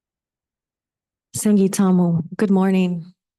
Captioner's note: speaking in foreign language